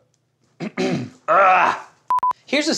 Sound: clears throat, groans

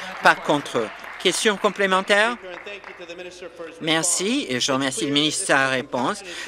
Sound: applause

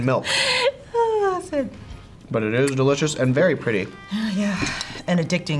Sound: sighs

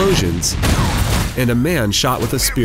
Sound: boom

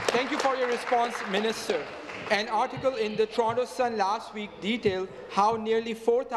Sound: applause

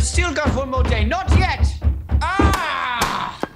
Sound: bloodcurdling indecipherable yelling

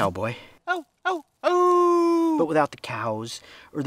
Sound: howling

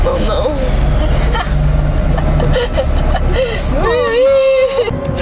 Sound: laughing

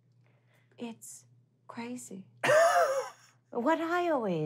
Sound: laughing

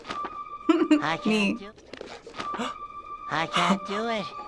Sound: chuckles; gasps

